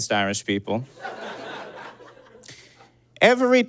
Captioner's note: audience giggles